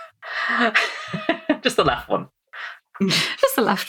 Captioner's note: laughs